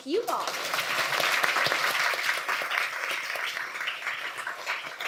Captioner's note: applause